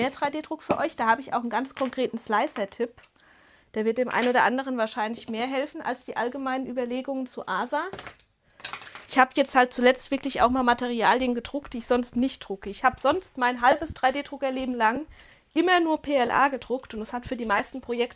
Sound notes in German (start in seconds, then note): none